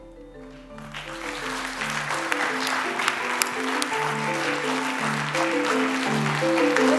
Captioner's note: applause